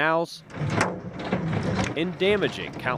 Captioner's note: hail thumps metal